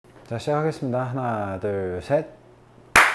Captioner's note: clap